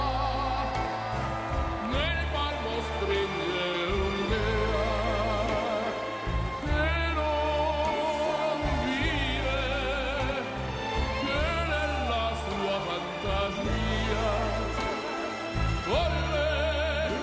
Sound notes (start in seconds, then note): 4.7 cheers and applause